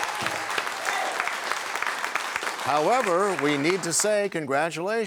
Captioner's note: cheers and applause